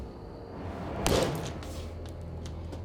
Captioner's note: smashes watch